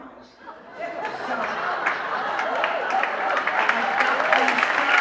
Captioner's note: laughter